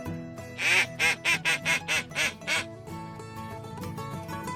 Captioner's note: duck calls